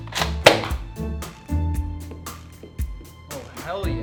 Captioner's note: shoots Nerf gun